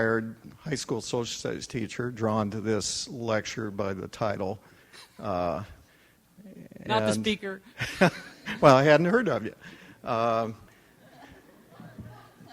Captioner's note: audience chuckles